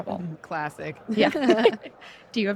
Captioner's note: laughter